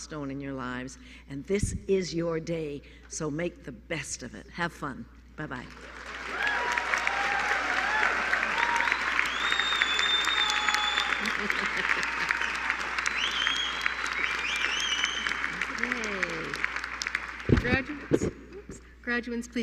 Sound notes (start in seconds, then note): 10.9 applause